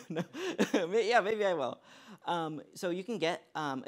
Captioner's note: laughs